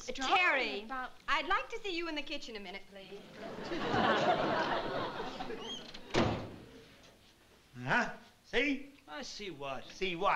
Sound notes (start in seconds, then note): 5.3 door slams